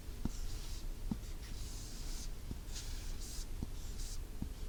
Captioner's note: writing sound